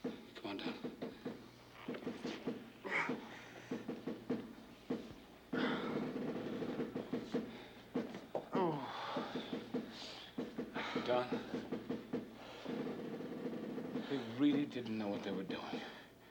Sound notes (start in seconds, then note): 2.0 Don breathing and groaning